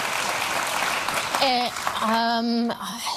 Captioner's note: audience clapping